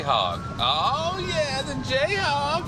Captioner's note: none